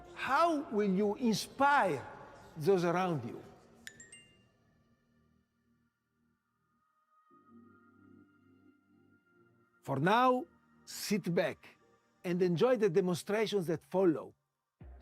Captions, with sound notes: How will you inspire those around you? (computer chimes) (gentle music) For now, sit back and enjoy the demonstrations that follow.